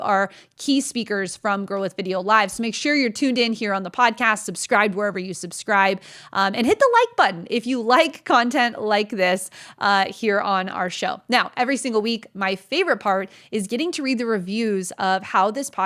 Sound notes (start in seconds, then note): none